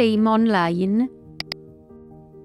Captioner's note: mouse click